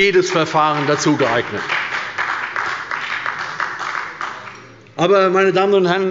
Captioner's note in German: Beifall bei der SPD